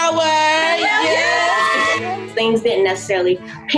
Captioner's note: everyone cheering